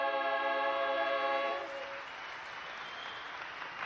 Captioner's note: applause